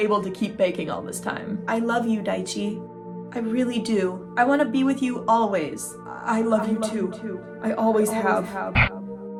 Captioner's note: Daichi's internal voice; bursts of static distorting music